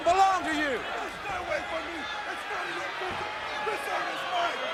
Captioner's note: Kama shouting